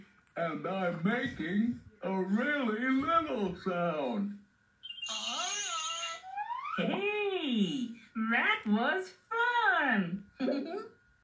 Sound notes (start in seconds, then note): 10.4 giggles